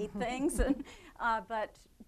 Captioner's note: both laughing